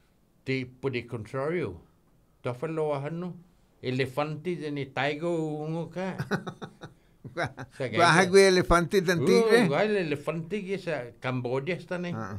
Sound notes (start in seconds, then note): 6.2 laughing